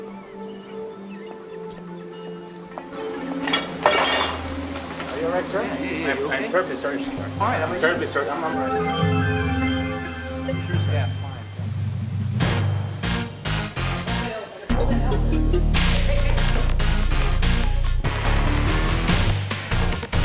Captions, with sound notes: (dishes and tray clanging) - Are you all right, sir? - Yeah, yeah yeah. - I am terribly sorry, sir. - I'm fine. (dramatic music) Hold the elevator, hold that elevator. (fast-paced action music)